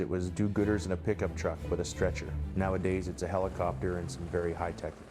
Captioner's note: voiceover